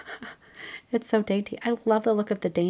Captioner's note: laughs